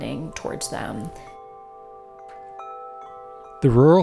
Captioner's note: chimes clanging